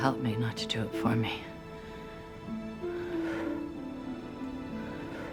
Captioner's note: sighing